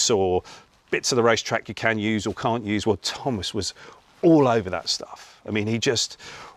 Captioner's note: none